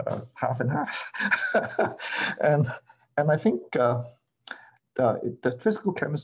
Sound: laughter

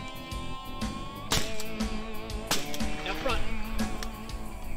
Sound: gun fire; soft country music; faintly speaking

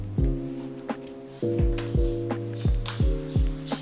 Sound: Sound of Marly's footsteps

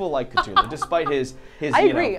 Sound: laughs

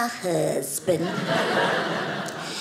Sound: audience laughing

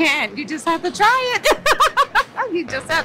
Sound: laughs

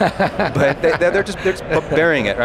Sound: laughter

